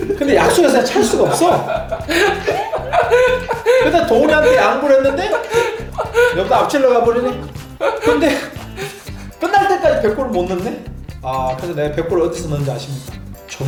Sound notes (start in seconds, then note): 7.3 crying